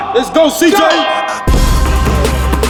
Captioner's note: bell ringing; intense music